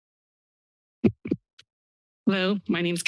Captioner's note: silence; microphone thump noise